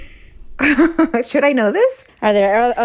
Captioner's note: laughter